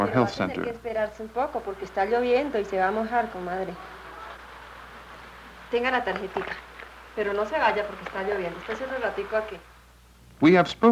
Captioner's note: women conversing in Colombian Spanish